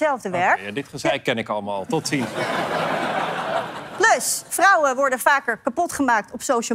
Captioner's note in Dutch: gelach